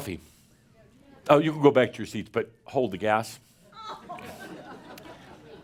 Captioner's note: some chuckles